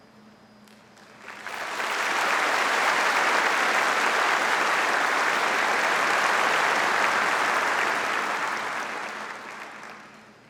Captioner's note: audience applauding